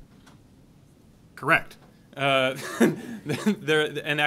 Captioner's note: laughs